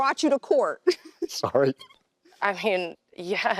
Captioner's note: chuckles